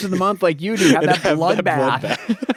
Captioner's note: laughs